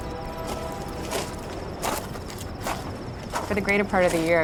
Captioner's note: footsteps